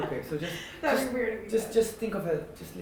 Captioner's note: laughing